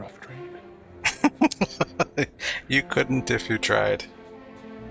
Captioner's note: laughing